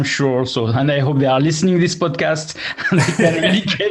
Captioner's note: laughs